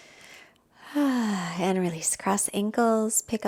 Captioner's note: exhales deeply